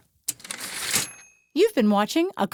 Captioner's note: typewriter ding